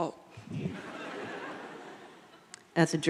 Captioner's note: audience laughing